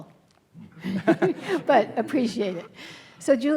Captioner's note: laughing